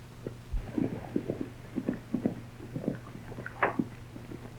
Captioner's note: hooves clatter